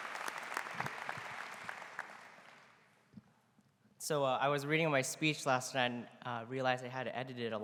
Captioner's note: applause